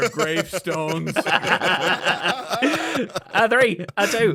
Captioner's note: EVERYONE laughs